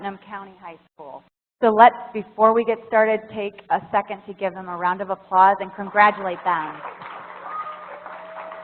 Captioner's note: applause